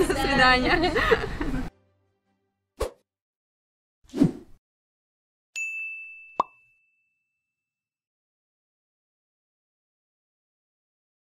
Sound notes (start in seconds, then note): 0.0 women laughing; 0.2 women speaking in foreign language; 2.7 logo whooshing; 5.4 logo pinging; 5.4 logo popping